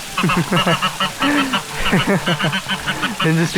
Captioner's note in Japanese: 笑い